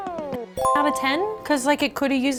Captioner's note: dinging